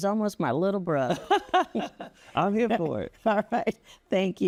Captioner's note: laughing